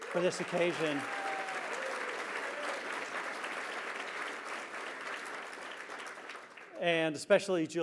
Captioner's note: applause